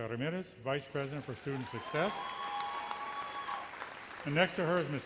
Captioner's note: audience cheers